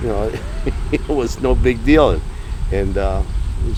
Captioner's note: laughing